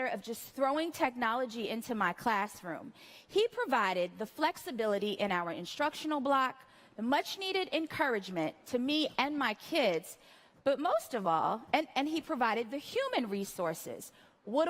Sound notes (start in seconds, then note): none